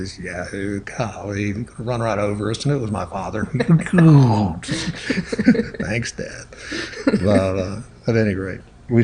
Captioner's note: both laugh